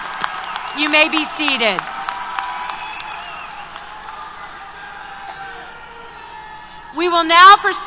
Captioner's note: applause, Cheers